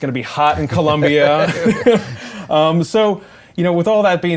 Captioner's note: laughter